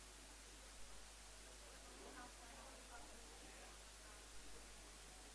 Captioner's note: indistinct conversation